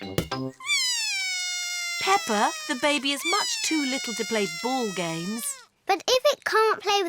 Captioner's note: bawls